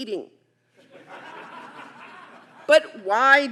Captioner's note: audience laughing